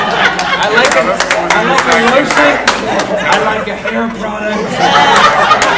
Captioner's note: audience laughing; laughing drowns out speakers